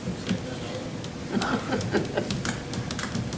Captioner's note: laughter